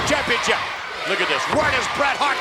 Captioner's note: audience chanting